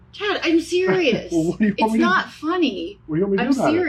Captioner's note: mumbles